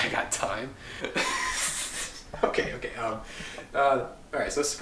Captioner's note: laughing; laughs